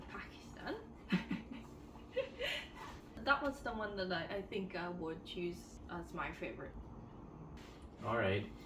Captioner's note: laugh